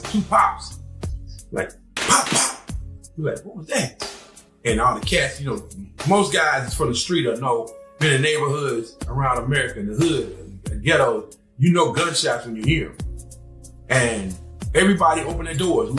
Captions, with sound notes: Two pops. Like pop pop. (gun fires) We was like, what was that? And all the cats, you know, most guys from the street that know in the neighborhoods around America in the hood, a ghetto, you know, gunshots when you hear 'em. And everybody opened their doors.